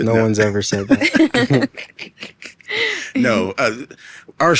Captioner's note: all laughing